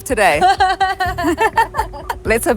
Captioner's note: person laughing